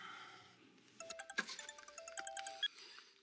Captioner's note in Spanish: suena un celular